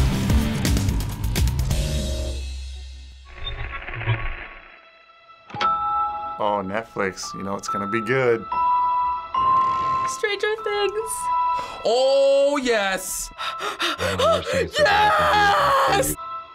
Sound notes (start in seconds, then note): 3.4 faint radio crackle; 5.7 bling; 8.6 light music; 13.4 hyperventilating